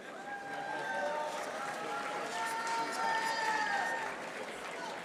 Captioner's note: audience applauding